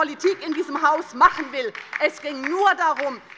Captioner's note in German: Beifall bei der LINKEN